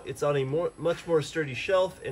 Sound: none

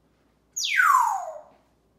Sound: whistling

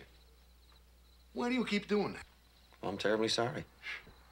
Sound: scoffs

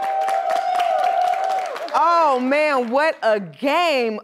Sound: applause

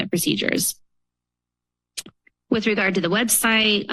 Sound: pause

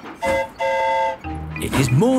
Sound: train whistle toots; mimics train whistle

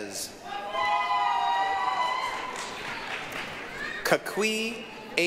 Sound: applause, cheering

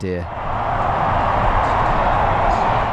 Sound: crowd cheering

